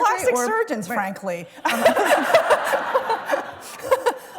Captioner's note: laughter